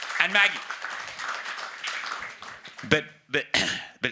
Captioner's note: audience applauding